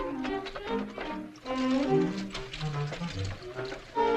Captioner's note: wagon rattling